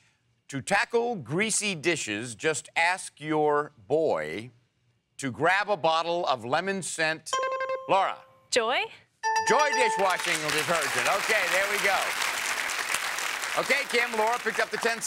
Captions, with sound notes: To tackle greasy dishes, just ask your boy to grab a bottle of lemon-scent-- (buzzer ringing) Laura. -Joy? (buzzer dinging) -Joy dish-washing detergent. Okay, there we go. (audience applauding) Okay, Kim, Laura picked up the 10 seconds,